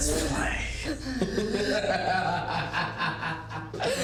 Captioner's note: Ben laughing